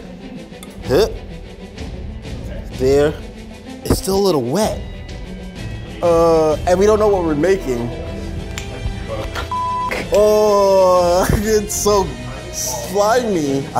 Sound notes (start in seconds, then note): 0.2 suspenseful music; 9.5 beep